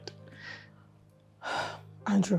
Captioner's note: sighs